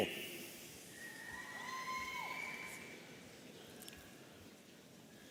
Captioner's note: audience cheering